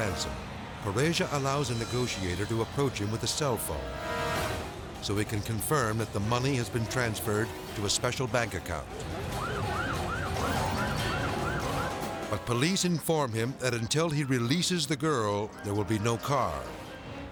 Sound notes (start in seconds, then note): 9.0 siren wailing